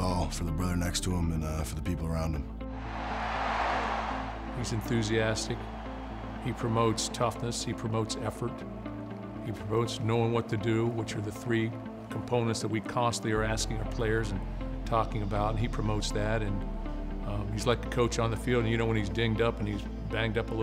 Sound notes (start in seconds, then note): 2.8 crowd cheering